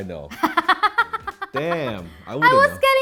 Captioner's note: laughing